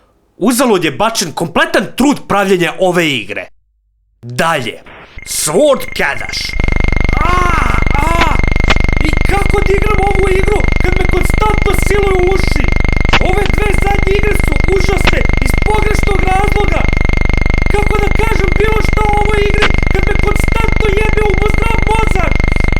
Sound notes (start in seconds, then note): 6.5 yelling in the background; 7.4 irritating sound from the game